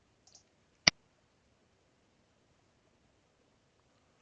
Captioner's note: mouse clicking